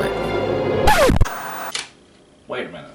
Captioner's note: record scratching; white noise scratching